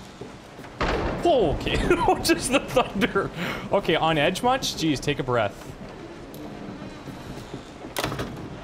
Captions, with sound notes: (thunderclap) Okay! [laughs] Just the thunder. Okay, on edge much? Jeez, take a breath.